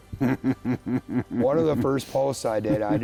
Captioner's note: chuckles